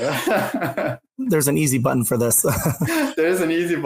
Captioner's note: laughs; laughs